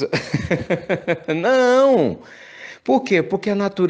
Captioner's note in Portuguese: risos